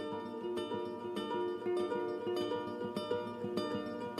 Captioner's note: none